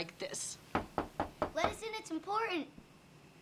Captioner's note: knocking